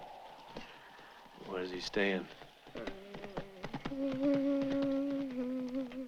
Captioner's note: Fernando humming